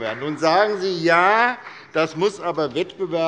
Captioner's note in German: Beifall bei Abgeordneten der SPD und der LINKEN